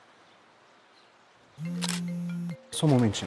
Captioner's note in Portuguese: celular toca